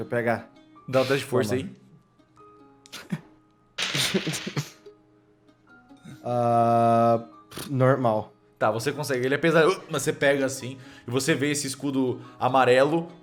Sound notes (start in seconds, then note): 3.8 dices rolling